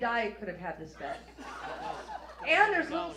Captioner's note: audience laughs